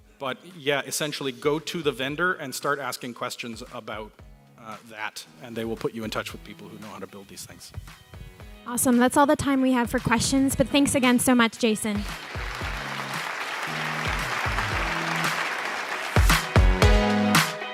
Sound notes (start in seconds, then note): 11.9 applauding